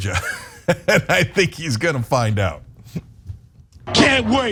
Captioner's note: laugh